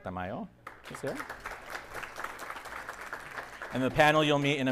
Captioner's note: audience applauding